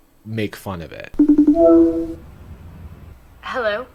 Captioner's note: FaceTime ring